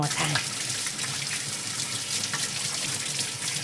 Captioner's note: water running